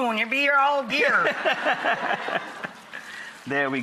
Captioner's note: laughs